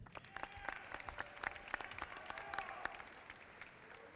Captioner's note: audience applauding